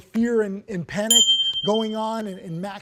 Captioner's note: bell ringing